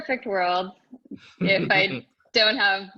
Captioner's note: laughing